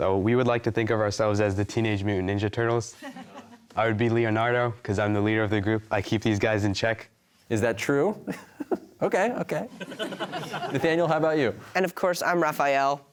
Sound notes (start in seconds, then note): 9.8 audience laughter